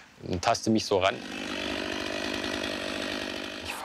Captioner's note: chainsaw noises